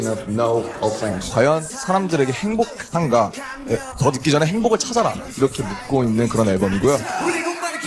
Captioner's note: Korean